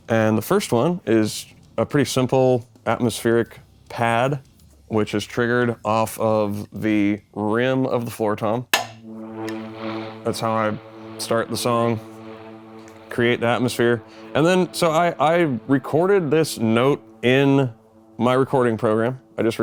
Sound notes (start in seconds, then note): 8.7 synthesizer warbling; 8.7 drumstick clacks